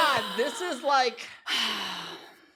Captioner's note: sighs